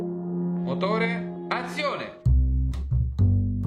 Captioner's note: in Italian